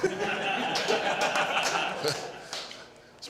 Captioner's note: crew members laughing